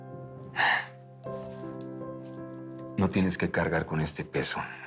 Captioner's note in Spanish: Suspiros